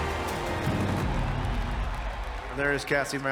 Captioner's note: crowd cheering